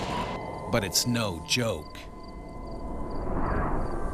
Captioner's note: voiceover